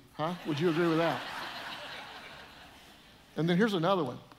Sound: audience laughing

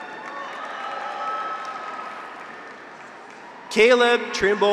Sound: audience applauds; graduates cheer

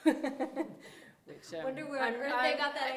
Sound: chuckling

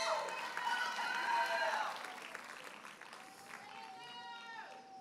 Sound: audience cheers and applauds

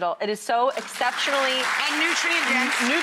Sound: audience clapping

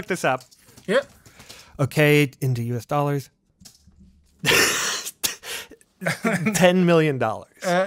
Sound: laughs

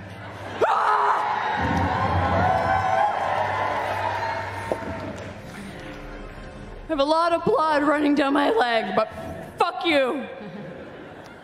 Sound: yells

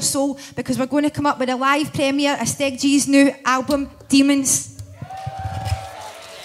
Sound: applause

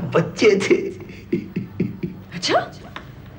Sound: laughs

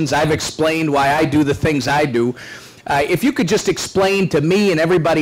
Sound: none

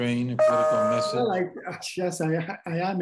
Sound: computer notification chimes

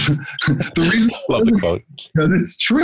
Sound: laughter

